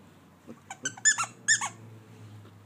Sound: squeak

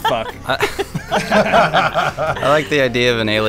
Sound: laughter

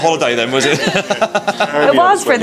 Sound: laughing

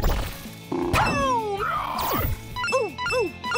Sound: screeching

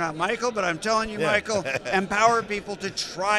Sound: laughs

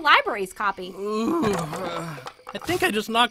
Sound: moaning

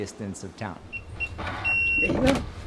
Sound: beeping

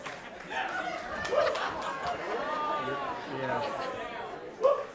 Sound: audience laughing

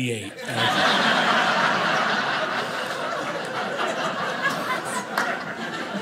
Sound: audience laughing

